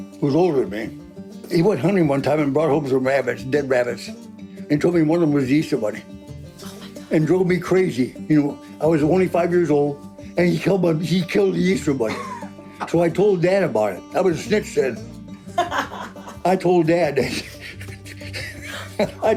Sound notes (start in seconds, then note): 6.9 whispered; 12.0 laughing; 15.4 laughing